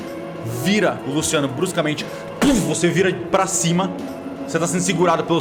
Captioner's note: thump